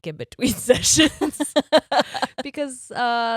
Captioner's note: all laughing